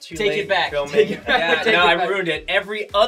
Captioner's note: laugh